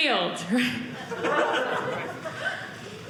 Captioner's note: audience laughing